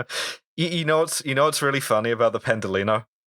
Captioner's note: laughter